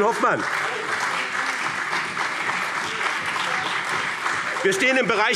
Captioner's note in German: Beifall BÜNDNIS 90/DIE GRÜNEN